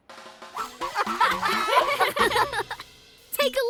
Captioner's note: giggling